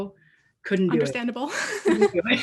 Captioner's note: both laugh